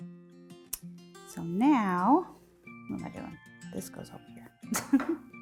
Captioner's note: chuckles